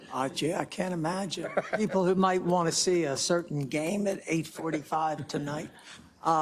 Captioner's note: laugh